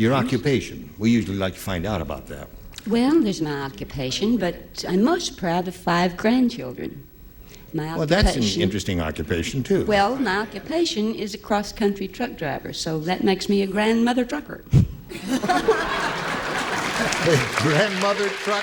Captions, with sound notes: NO. THERE WAS ONE THING YOU LEFT OUT. YOUR OCCUPATION. WE USUALLY LIKE TO FIND OUT ABOUT THAT. WELL, THERE'S MY OCCUPATION, BUT I'M MOST PROUD OF FIVE GRANDCHILDREN. MY OCCUPATION-- WELL, THAT'S AN INTERESTING OCCUPATION TOO. WELL, MY OCCUPATION IS A CROSS-COUNTRY TRUCK DRIVER. SO THAT MAKES ME A GRANDMOTHER TRUCKER. [LAUGHTER]